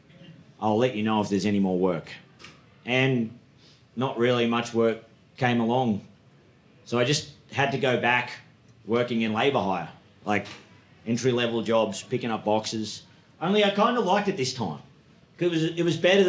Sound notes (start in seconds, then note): none